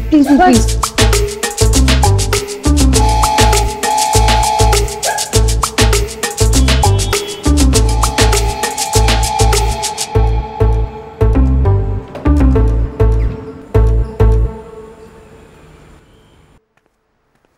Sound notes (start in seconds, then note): 9.5 Door opens; 11.9 Door closes